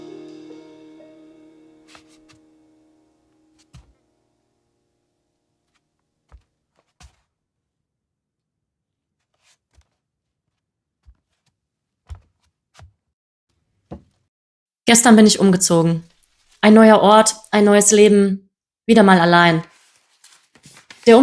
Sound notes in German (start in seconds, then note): 1.4 Musik verklingt, rascheln von Umzugskisten